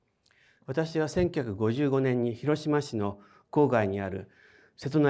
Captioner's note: speaking in foreign language